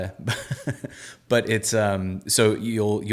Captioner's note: laughing